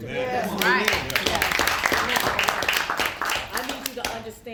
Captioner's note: applause